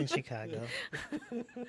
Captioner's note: laughing